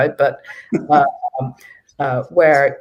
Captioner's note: chuckle